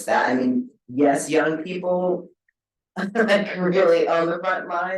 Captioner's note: chuckles